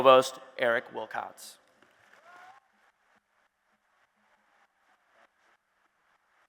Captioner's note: applause and Cheers